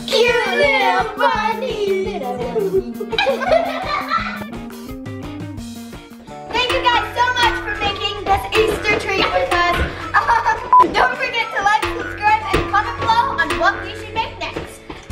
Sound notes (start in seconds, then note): 3.4 laughing